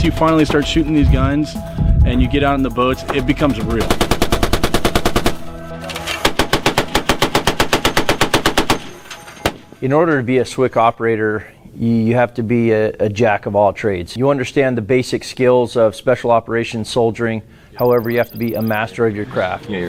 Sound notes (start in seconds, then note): 5.9 weapon firing